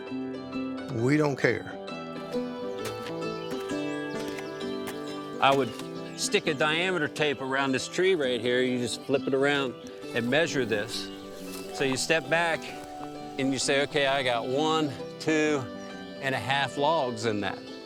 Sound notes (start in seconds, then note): 2.7 footsteps crunching; 2.8 appalachian folk music continues